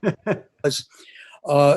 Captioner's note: laughing